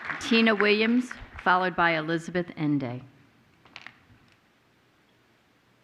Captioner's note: applause